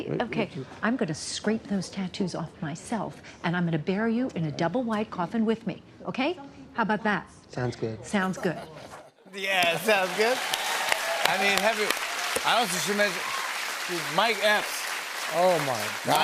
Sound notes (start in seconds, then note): 10.0 cheers and applause